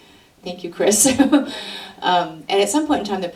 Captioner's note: laughs